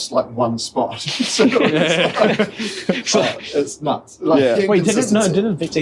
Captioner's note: laughter